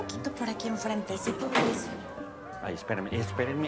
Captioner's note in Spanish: Sonido al abrir la puerta